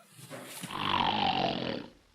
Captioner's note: snoring